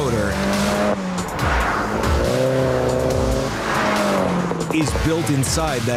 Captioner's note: car engine revving